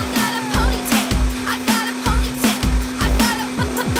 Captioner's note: blending